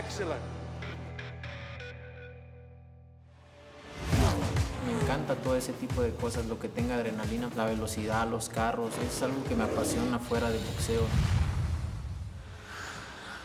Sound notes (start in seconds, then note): 1.1 Canelo speaking Spanish